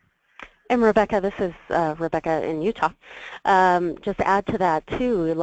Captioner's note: voiceover